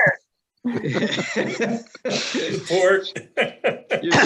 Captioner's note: laughing